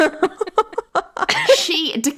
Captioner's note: both laughing